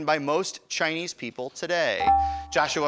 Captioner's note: ding